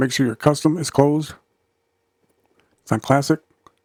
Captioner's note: silence